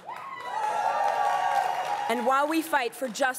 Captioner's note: crowd cheering and applauding